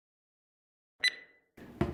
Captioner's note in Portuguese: bipe